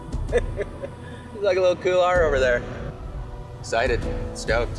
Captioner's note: chuckles